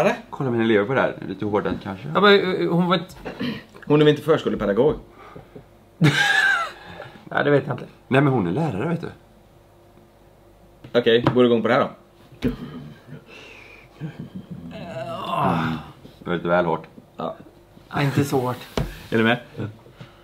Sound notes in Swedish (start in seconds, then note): 6.0 skratt